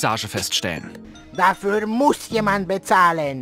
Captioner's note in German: Schräge Ingamestimme